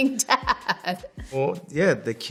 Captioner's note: laughs